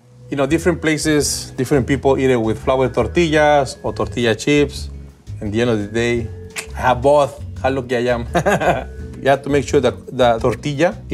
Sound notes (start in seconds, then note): 8.3 chuckles